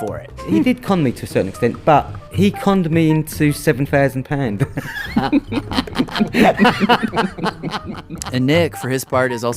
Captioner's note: laughs